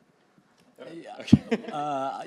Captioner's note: chuckling